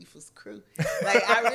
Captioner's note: laughs